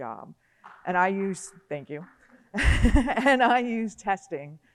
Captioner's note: audience clapping; laughs